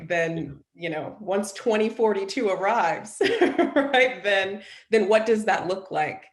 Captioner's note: chuckles